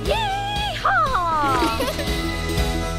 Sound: girls giggling

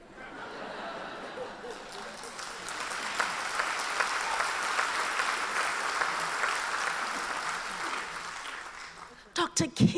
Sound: applause

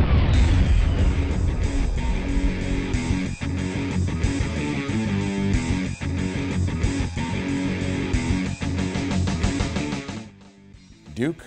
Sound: multiple Explosions; heavy Metal Music

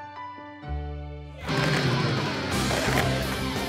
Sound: crashing

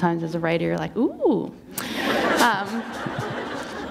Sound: laughter

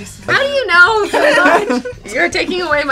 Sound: all laughing

